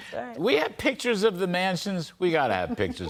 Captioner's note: laughter